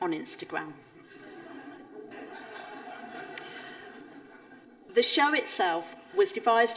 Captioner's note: audience laughing